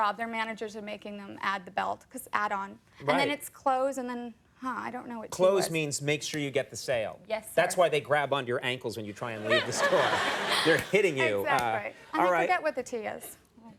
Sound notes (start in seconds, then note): 9.3 audience laughing